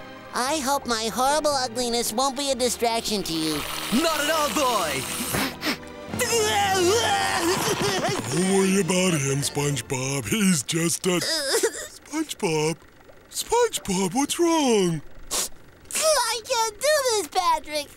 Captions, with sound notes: I hope my horrible ugliness won't be a distraction to you. Not at all, boy. [sniffing] Don't worry about him, SpongeBob, he's just a- [crying] - SpongeBob. SpongeBob, what's wrong? I can't do this, Patrick.